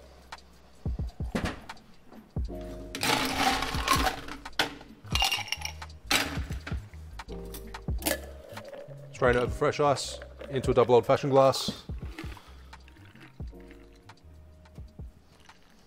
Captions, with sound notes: (ice cubes rattling) Strain it over fresh ice into a double old fashioned glass. (calming music)